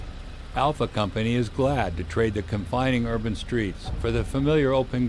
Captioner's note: voiceover